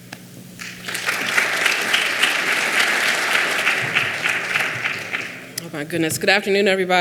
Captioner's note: clapping